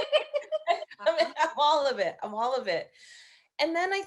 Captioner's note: laughing loudly